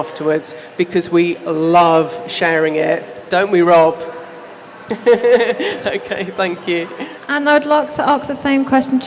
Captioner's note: laughs